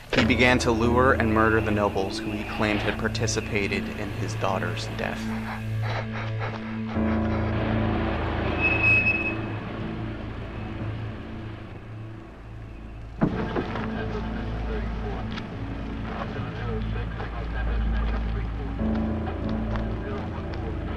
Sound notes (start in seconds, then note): 8.5 car brakes squeal; 15.7 eerie music